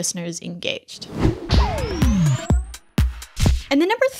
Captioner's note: air whooshing; bright music